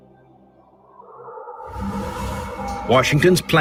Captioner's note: wind howling